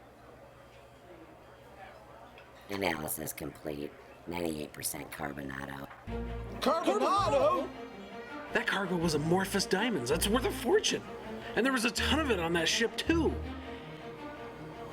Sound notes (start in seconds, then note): 2.4 machine Voice